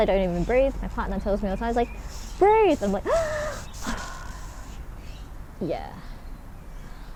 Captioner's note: inhale + exhale